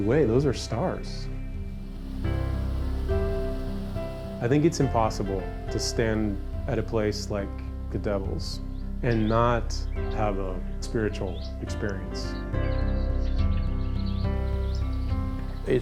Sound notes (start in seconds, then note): 1.7 water splashing; 12.6 gentle music